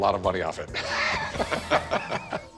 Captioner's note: both laughing